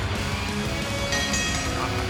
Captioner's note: bell ringing